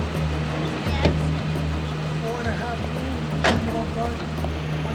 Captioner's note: indistinct chatter